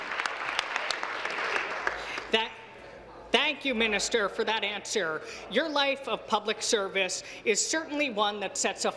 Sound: applause

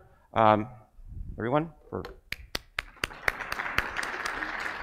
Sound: audience claps; claps

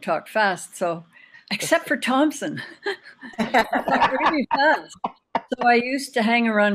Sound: all laughing

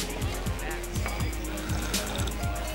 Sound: slurping

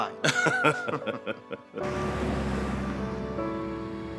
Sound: Gates and Travis laugh; soft gentle music

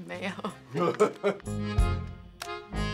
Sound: chuckles

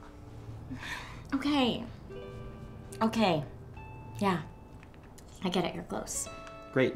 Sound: sighs

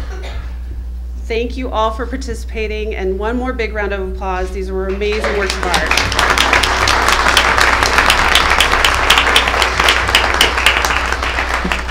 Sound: applause

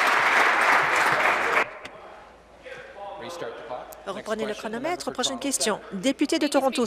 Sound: applause

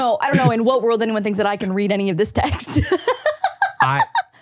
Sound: laughing

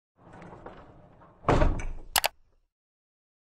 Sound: wheel rolling; mouse clicks

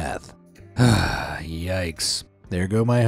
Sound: scoffs

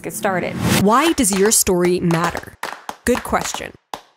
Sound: word whooshing

